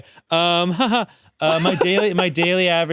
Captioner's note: laughs; chuckles